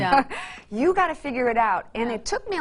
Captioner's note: laughs